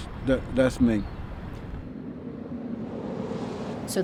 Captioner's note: car engine revving